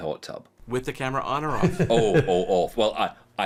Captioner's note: laughing